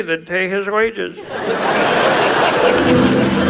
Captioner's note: audience laughs; intriguing music